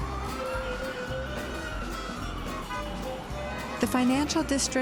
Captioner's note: cars honking